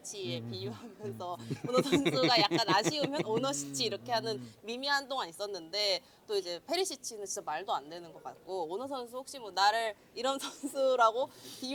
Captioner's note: laughs